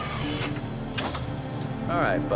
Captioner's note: hinge squeaking